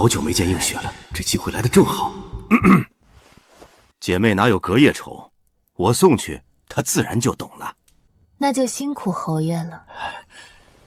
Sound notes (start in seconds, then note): 2.6 cough cough